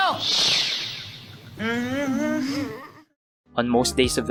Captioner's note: grunting